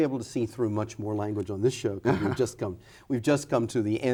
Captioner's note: laughs